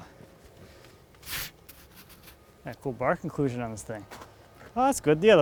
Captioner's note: scrapes